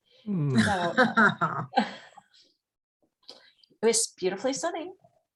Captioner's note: laughs